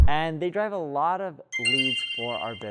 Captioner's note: air whooshing; chimes ringing